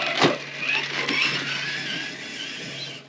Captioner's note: vroom! Vroom!